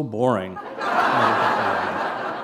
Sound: laughter

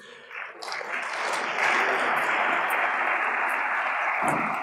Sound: audience applauds

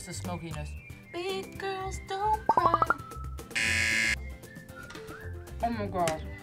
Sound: buzzer rings

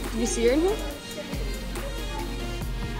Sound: speaking faintly

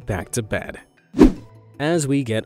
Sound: image whooshing

